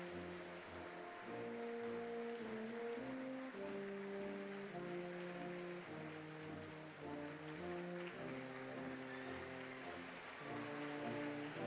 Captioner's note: applause